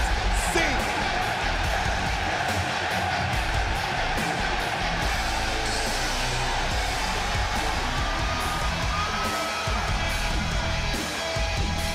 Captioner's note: crowd cheering